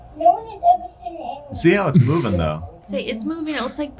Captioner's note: laughs